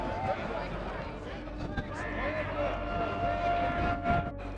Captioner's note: crowd yelling